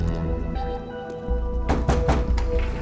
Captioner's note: banging